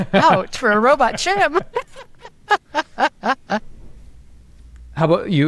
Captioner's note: laugh